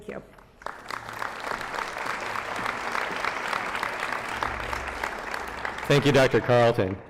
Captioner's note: applause